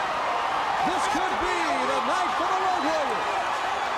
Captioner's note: crowd cheering